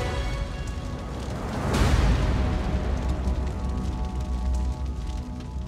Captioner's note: flames crackling